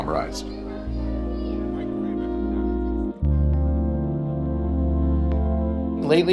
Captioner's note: gentle music; people chattering